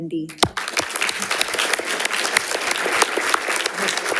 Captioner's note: audience applauding